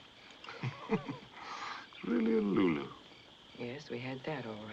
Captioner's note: chuckles